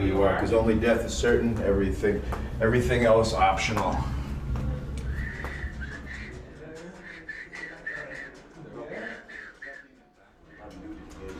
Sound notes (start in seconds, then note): 5.2 silbando